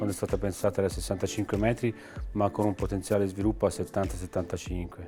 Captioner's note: speaking in foreign language